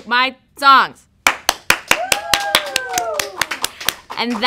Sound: clapping, audience cheering

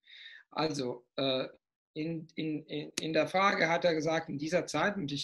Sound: in German

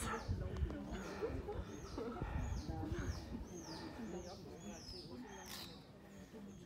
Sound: crowd chatting; birds whistling

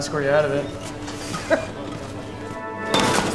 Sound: chuckles

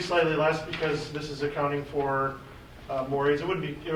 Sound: faintly speaking

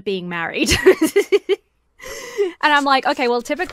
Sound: laughs

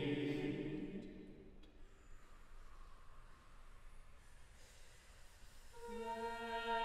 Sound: full Ensemble, staggered, exhales and then inhales, one after the other

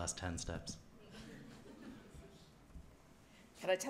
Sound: laughter

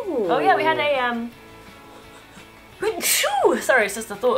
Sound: sneezes

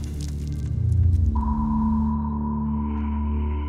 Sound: sonar Pulse

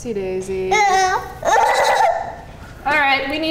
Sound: laughing

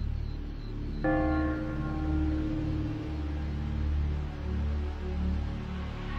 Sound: cathedral bell ringing

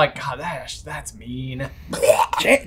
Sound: imitates vomit

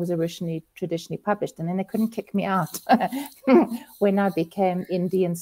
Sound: laughs

